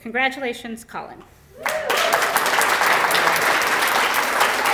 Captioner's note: applause